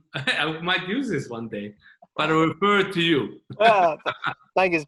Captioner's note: chuckling